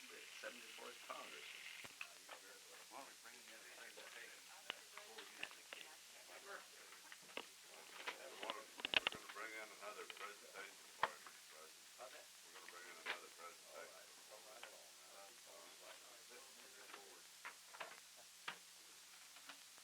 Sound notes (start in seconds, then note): 2.6 background chatter